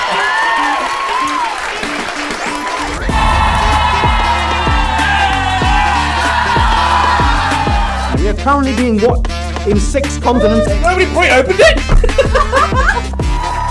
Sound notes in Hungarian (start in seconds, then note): 2.9 izgatottan kiáltozik; 13.2 ujjongás és taps